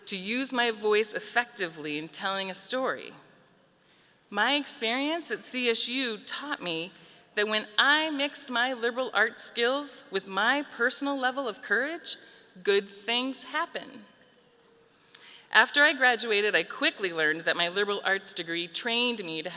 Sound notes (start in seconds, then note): none